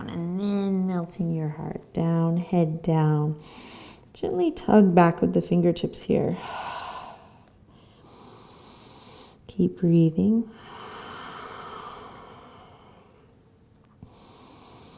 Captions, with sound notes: and then melting your heart down, head down. Gently tug back with the fingertips here. (exhaling and inhaling) Keep breathing. (deep breathing)